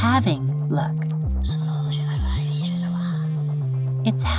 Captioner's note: whispering sounds